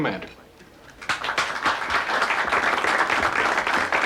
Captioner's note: applauding